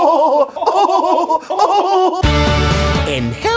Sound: totally awesome bobs laughter

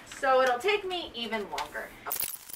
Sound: none

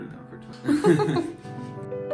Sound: chill contemporary music; laughing

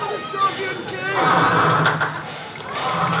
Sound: walky talky static **~%00..!

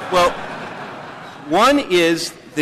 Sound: laughter

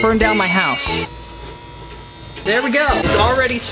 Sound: buzzing

